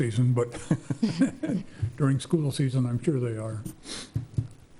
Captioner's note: laughs